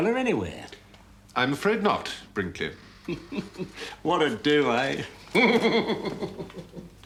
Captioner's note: giggles